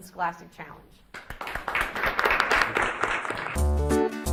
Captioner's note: audience applauds; instrumental upbeat music